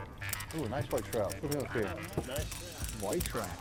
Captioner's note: men chatting